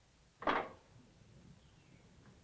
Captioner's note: clank